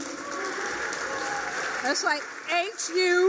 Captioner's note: applause